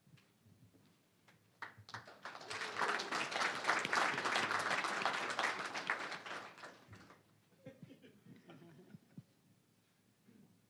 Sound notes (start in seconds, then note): 1.6 applause